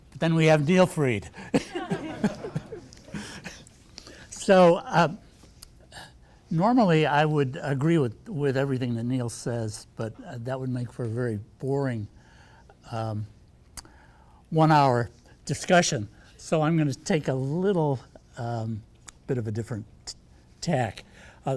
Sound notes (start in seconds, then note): 1.4 laughs; 3.7 audience laughing